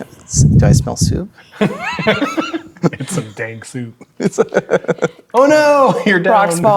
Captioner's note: laughing